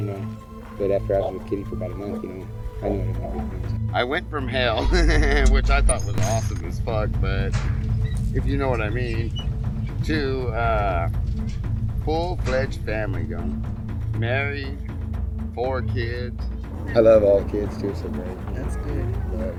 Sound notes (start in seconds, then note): 4.8 laughing